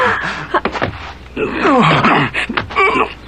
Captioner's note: Marion gagging, garbled shouts